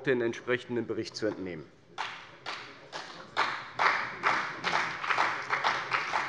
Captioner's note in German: Beifall bei der CDU und dem BÜNDNIS 90/DIE GRÜNEN